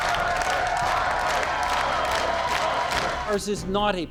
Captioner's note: crowd cheering, chanting Harper!